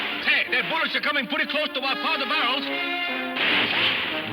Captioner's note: guns firing